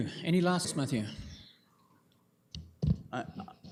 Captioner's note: audio drop